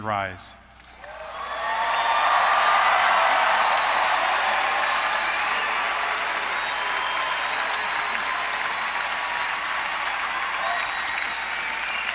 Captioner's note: applause